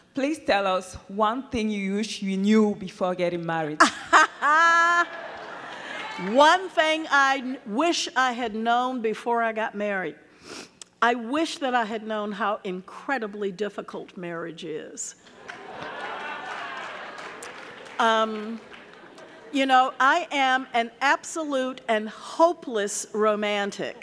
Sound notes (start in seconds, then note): 3.9 laughing; 3.9 audience laughing; 15.3 audience laughing; 15.4 audience clapping